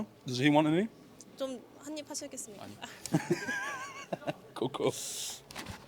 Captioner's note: laughs